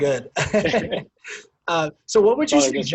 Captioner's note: men laughing